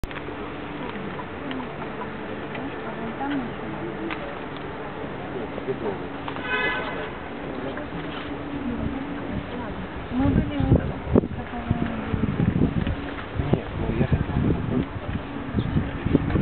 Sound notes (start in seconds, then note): 3.3 background chatter